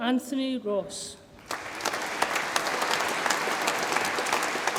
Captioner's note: audience applauds